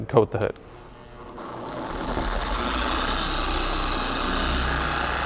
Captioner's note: TORQ22D motor running